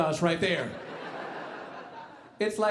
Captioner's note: audience laughing